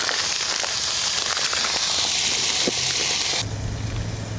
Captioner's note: peppers frying